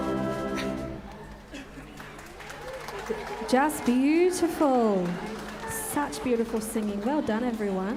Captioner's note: applause